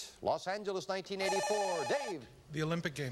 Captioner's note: buzzer